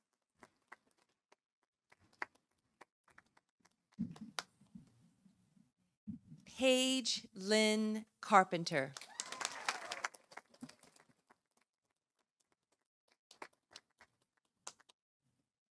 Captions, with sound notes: Page Lynn Carpenter. -(audience applauding) -(audience cheering)